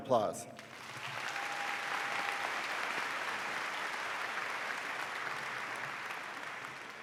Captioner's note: audience applauding